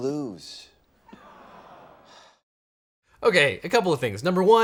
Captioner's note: audience groans